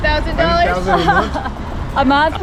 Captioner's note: woman laughing